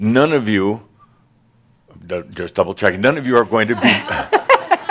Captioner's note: some laughter